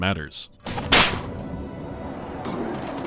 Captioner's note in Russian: шпанк!!